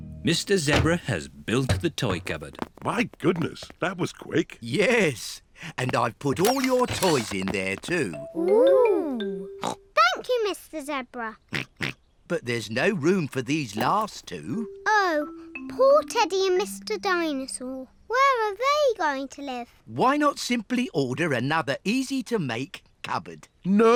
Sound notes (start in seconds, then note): 9.6 snorts; 11.5 snorts